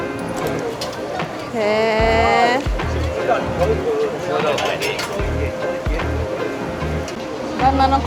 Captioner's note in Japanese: 小声